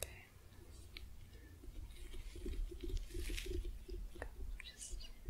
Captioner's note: light tapping, glove sounds